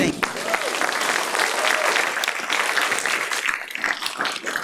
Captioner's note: clapping